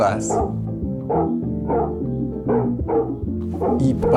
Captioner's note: dog barking